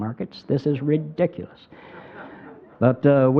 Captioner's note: crowd laughing